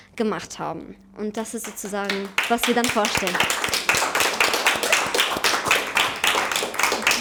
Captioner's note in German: Applaus